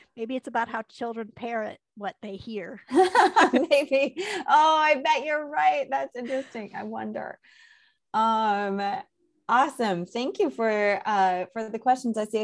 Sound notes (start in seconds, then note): 3.5 laughs